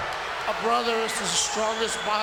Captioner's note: audience cheering